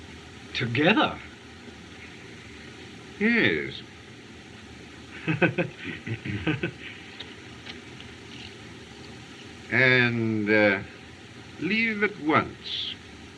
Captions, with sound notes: Together? - Yes. - [Chuckles] And, uh, leave at once.